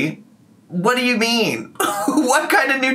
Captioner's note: laughing